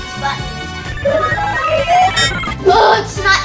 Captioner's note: mechanical beeping